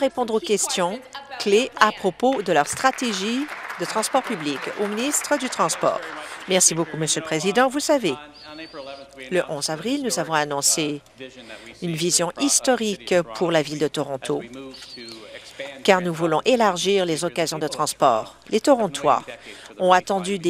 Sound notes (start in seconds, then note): 5.6 applause